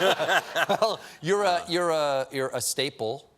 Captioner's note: laughter